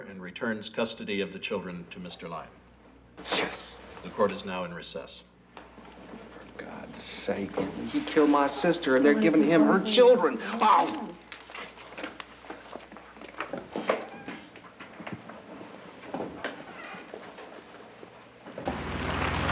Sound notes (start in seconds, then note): 10.3 lady speaking faintly